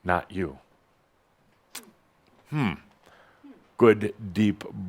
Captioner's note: someone says “Hm”